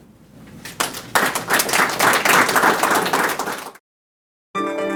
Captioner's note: audience applauding